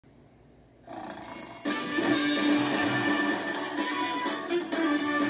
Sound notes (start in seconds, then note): 0.8 snoring; 1.2 clock ringing; 1.7 upbeat music